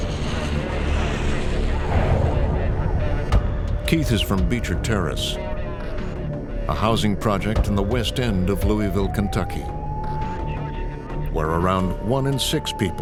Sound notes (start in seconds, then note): 2.4 sirens blaring